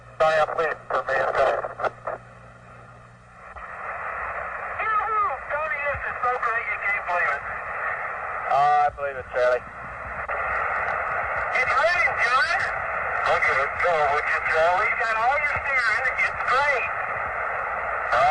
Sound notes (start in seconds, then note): 6.1 talking over radio